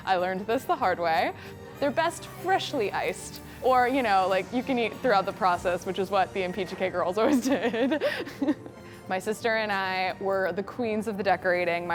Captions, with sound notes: I learned this the hard way. They're best freshly iced or you know like you can eat throughout the process which is what the Impicciche girls always did. (laughs) My sister and I were the queens of the decorating.